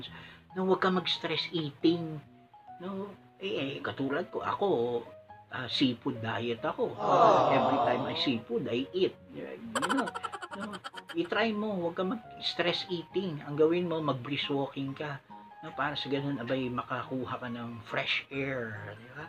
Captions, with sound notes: AVOID STRESS-EATING! LIKE ME, I'M ON A SEAFOOD DIET! (AAWWW) EVERYTIME I SEE FOOD, I EAT! (FUNNY LAUGH) TRY IT, AVOID STRESS EATING! DO SOME BRISK WALKING SO THAT YOU CAN GET SOME FRESH AIR